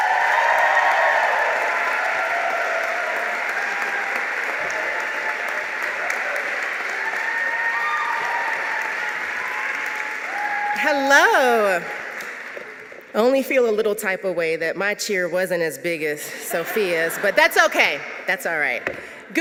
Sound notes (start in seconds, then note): 11.8 applause